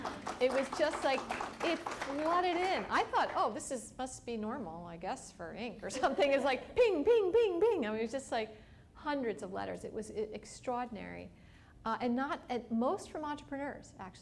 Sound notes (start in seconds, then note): 0.0 applause; 5.9 laughs